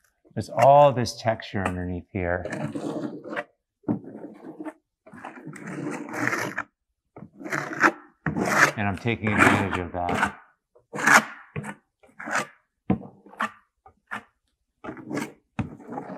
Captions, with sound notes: There's all this texture underneath here. (scraping) And I'm taking advantage of that. (scraping)